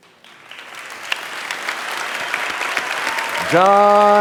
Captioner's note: audience applauding